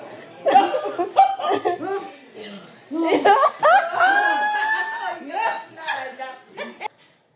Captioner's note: ladies laughing in background